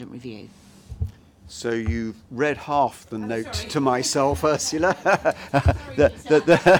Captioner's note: laughter